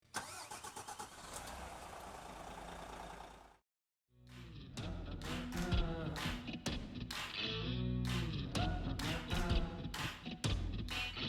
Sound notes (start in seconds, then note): 0.2 engine revving; 4.8 upbeat music